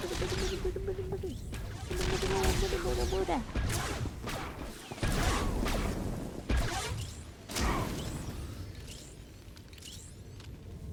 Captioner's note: humming